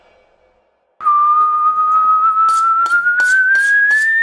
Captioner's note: whistles